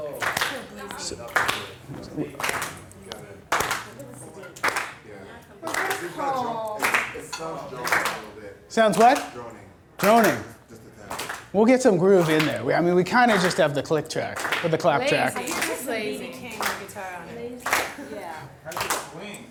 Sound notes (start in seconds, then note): 0.2 voiceover; 1.1 clapping drowns out audience suggestions; 9.8 voiceover; 15.9 voiceover